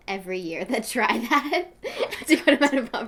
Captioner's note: laughs